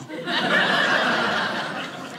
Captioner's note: audience laughing